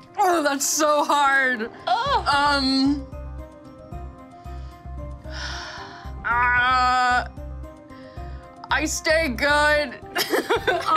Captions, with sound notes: - Oh, that's so hard! (sighs) I stay good. (laughs)